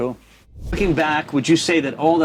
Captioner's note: air whooshing